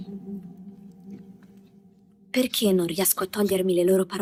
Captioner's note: speaking foreign language